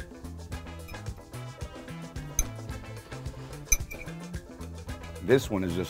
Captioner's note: fork scratches the plate